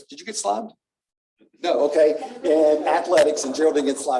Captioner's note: laughter